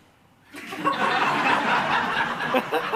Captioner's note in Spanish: Risas